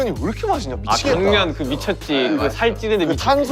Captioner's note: mouth waters